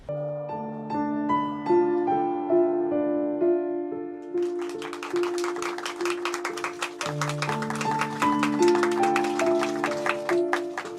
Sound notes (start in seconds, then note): 0.2 reflective music; 4.4 applauding